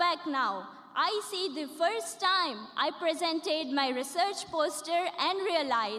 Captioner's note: none